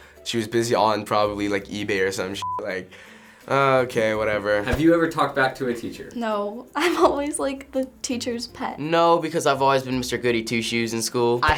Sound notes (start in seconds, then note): 3.3 nonchalantly